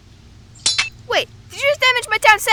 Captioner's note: building damage sound